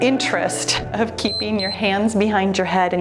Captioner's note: timer beeps